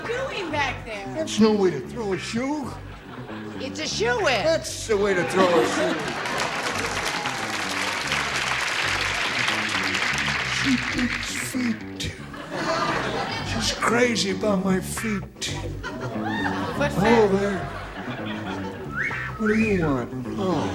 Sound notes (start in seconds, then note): 11.7 applause; 15.5 laughters